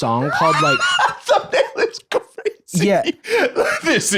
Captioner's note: laughing